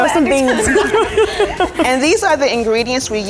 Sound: laughing

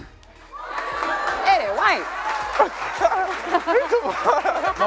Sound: laughter

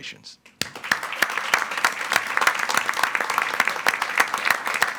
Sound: attendees applauding

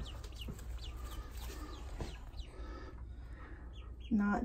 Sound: baby duck chirps

